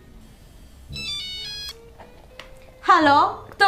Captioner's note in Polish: dźwięk telefonu